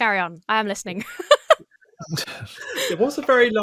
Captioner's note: laughs